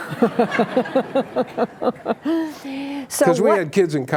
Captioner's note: laughing